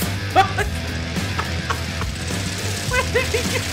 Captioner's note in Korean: 크핳ㅎ학핰ㅋㅋ하캌ㅋ